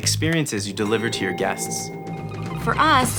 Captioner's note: bell dinging; otherwordly beeping